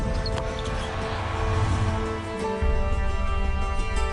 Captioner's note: crowd cheering